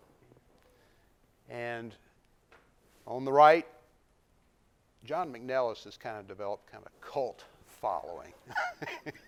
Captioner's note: laughter